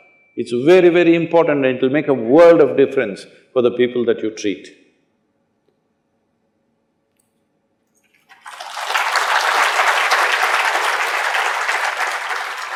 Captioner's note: applause